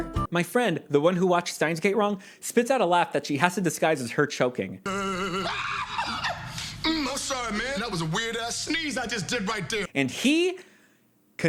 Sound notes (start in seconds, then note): 4.8 weeping; 4.8 scream-laugh